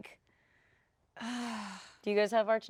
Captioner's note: sighs